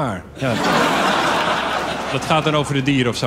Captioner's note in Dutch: gelach